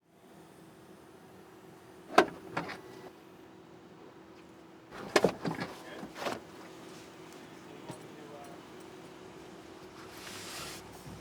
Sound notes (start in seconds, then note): 2.1 cases plunking